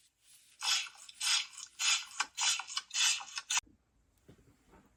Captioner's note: sea snails clatter